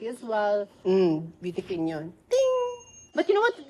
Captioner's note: dings